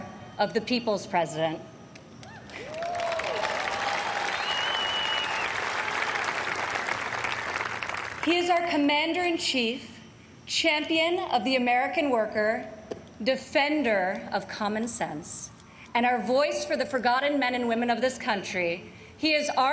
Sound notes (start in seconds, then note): 5.7 applause